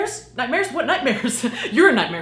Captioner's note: chuckles